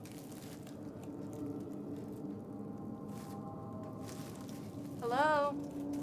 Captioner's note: ominous music; leaves crunch